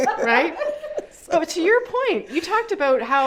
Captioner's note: laugh